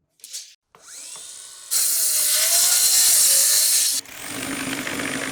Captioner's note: saw cutting